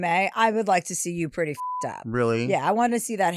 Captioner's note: beep